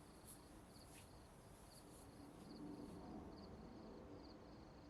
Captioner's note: footsteps shuffle